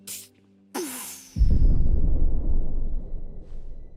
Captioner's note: audible real life shock wave